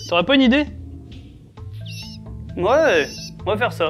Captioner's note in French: légers cris d'oiseaux